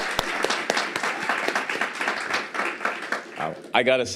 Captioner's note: applause and crowd whistles